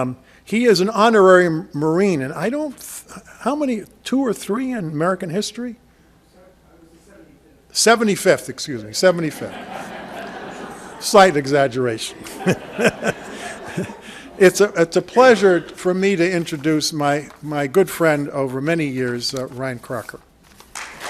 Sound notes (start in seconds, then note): 9.7 audience laughs; 13.5 laughs